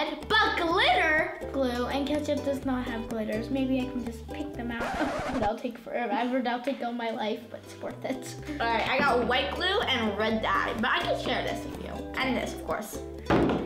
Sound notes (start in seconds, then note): 4.8 screeching; 13.3 thumping